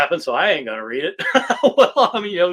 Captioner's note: laughs